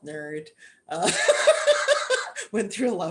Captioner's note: laughter